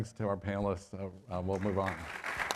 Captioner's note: applause